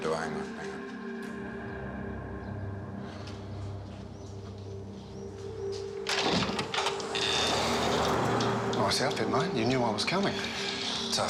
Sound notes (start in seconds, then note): 2.4 ominous music plays; 5.8 door opens